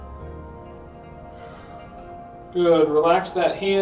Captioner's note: inhales; exhales